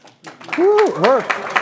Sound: applause

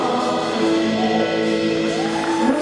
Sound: congregants cheering; congregants applauding

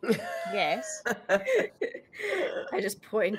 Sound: laughing

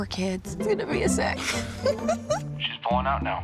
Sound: giggles

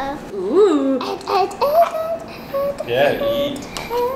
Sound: chatters excitedly

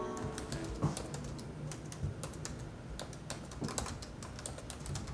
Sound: typing

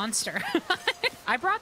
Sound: laughter

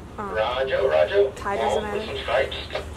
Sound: man On Radio

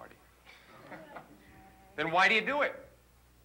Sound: student chuckles

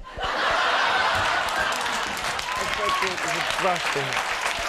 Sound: crowd laughs; crowd cheers

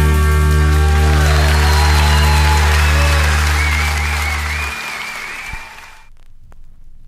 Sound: audience cheering and applauding

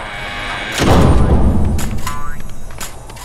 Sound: door slams

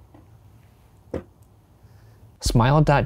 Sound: coffee cup clanking

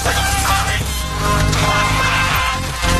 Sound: emmet yelling

